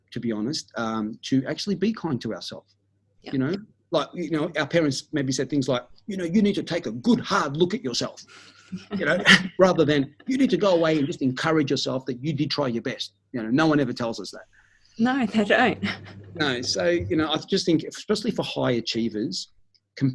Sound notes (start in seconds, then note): 8.8 both chuckling; 15.3 lady chuckles